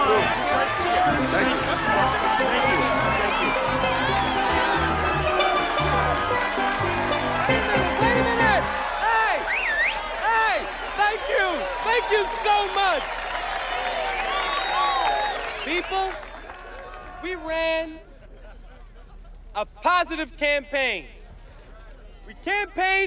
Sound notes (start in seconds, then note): 5.6 cheering; 9.3 whistling